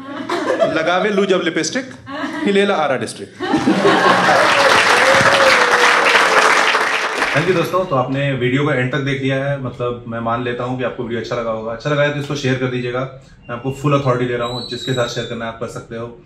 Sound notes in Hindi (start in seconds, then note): 3.4 हँसना; 5.6 ताली बजाना